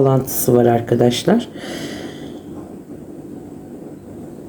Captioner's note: sighs